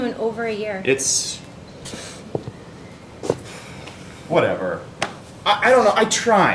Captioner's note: sighs